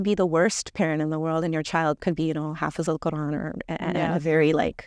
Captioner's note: speaking Arabic